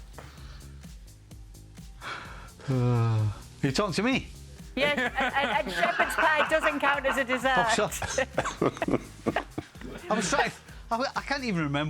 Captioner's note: laughter